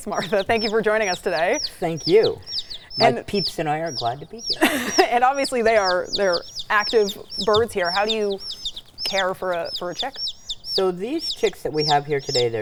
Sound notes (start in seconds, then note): 4.5 chicks peeping; 4.5 laughing